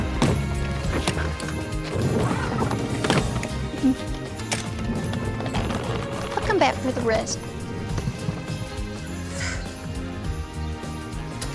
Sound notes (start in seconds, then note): 0.0 suitcases thudding; 9.2 sighs